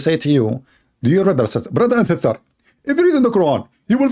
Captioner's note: Mimicking Zakir Naik